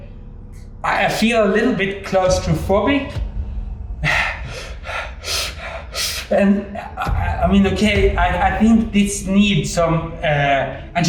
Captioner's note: breathing sounds